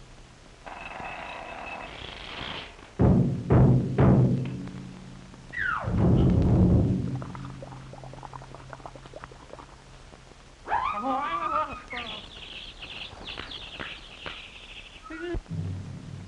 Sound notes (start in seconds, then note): 3.0 timpani drumming; 6.1 water bubbling; 13.1 bird chirping